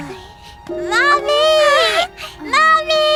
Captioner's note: calm music; happy gasp